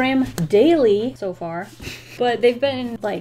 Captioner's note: chuckles